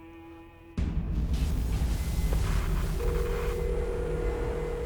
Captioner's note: static buzzing